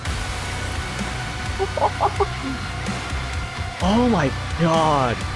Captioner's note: More giddy laughter as the drop hits harder than a classic Cyberdemon